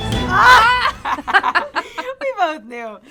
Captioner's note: all laughing